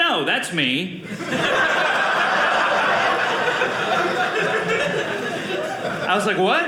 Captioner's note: audience laughing